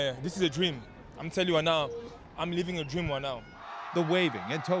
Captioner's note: cheers and Applause